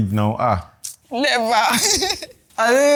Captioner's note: laughs